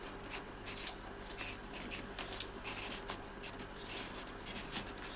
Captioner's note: pencil scratching